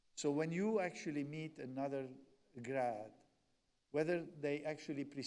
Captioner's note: none